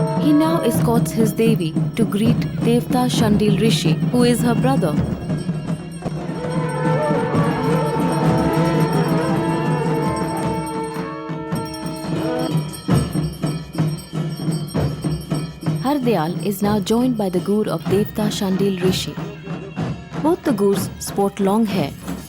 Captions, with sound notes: He now escorts his Devi to greet Devta Shandil Rishi, who is her brother. (soft drumming) (reed pipe music) (trumphets blowing) (intense drumming) (metal clanking) Hardayal is now joined by the Gur of Devta Shandil Rishi. Both the Gurs sport long hair